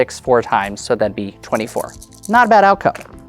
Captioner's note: dice rattling